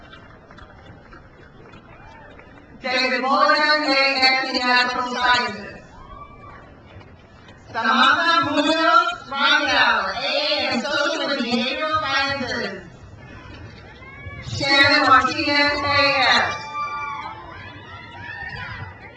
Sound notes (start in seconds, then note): 0.0 crowd applauds; 5.8 crowd cheers; 13.2 crowd cheers